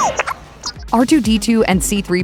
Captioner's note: beeping